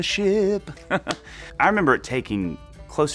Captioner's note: laughing